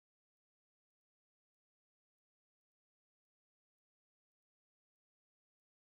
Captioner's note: none